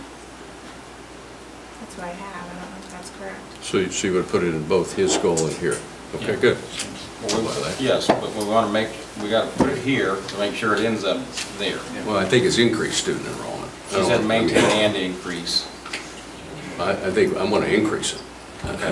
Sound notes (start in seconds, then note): 7.0 overlapping chattering